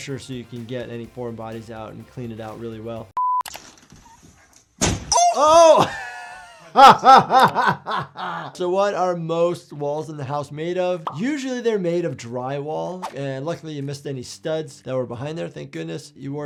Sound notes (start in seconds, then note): 4.7 camera person shouts; 4.7 wall crunches; 5.2 doctor laughs